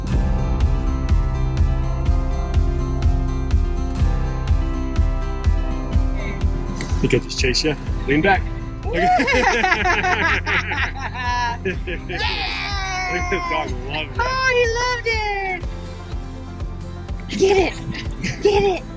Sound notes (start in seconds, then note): 0.1 upbeat rock music; 9.2 laughing and cheering